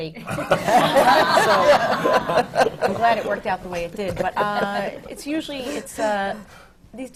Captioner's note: laughter